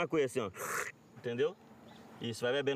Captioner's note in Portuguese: sorve